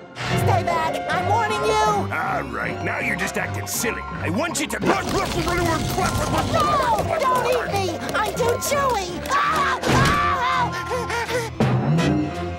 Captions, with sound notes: Stay back! I'm warning you! All right, now you're just acting silly. I want you to-- [muffled grunting] No, don't eat me! I'm too chewy! [screaming] [panting]